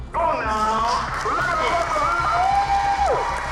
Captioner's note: cheering